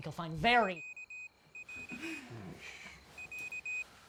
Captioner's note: pager beeping